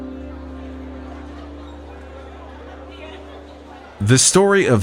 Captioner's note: crowd chattering indistinctly